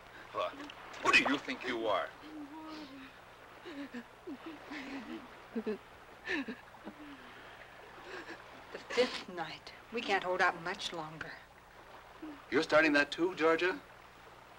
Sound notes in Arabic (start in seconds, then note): 3.6 نساء تبكي